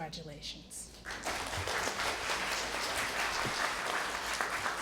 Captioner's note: applause